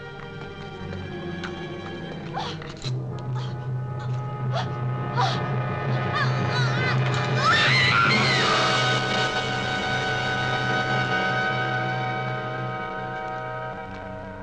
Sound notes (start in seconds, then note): 2.3 woman gasps; 3.9 ominous music; 7.3 screaming